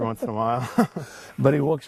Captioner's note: laughs